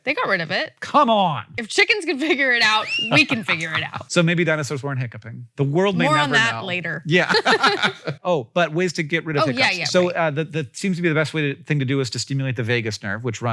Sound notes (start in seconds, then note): 7.1 Rachel and Hank laugh